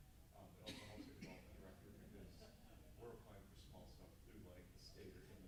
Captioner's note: coughing drowns out speaking